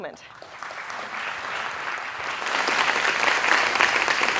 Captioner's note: applause